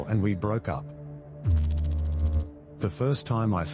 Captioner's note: electrical noise